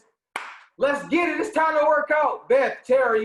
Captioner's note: clapping